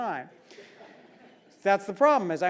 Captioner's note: laugh